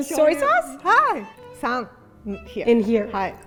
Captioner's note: speaking in Japanese